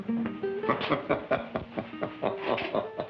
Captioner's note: laughing